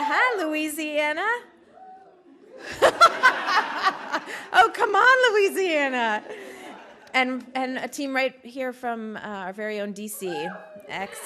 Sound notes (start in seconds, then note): 1.6 cheers; 4.5 laughter